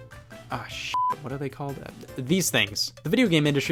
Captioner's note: beep